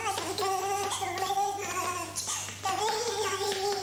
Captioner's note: humming